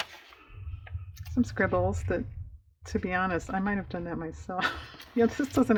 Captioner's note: laughs